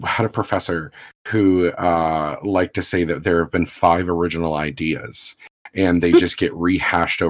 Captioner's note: laughs